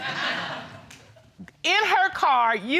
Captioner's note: audience laughs